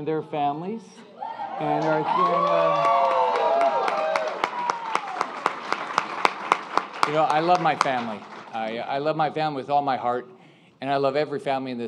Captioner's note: applause